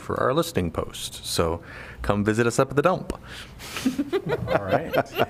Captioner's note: laughter